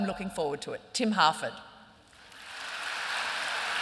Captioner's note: applause